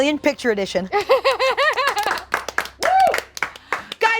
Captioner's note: laughs; group applauds